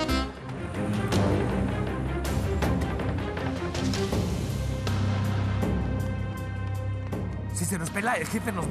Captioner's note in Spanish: sonido del motor